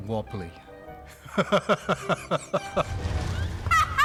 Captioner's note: laughs; laughing